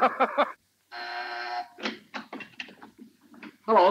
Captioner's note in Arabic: تضحك; طنين الباب